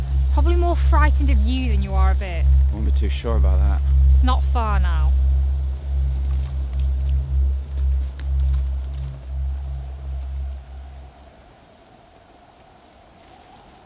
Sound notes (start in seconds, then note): 10.5 wind blowing